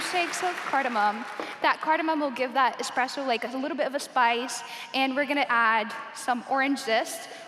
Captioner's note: applause